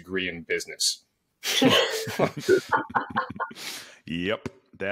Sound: both laughing

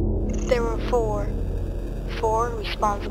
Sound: automated voice

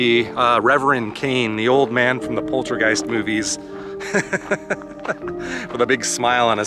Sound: laughter

